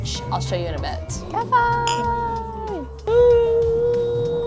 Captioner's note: glass clinking